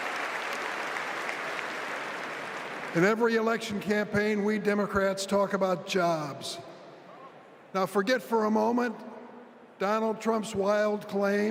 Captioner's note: applause